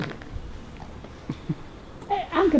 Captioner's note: background giggeling